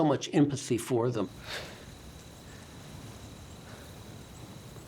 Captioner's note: sighs